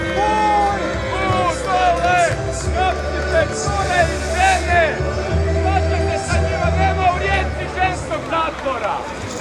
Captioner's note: yelling